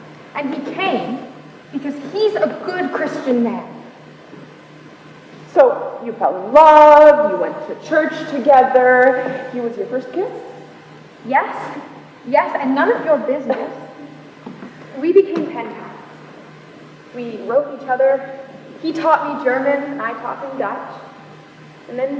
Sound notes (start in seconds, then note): 12.7 laughs